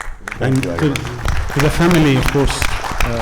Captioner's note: audience applauding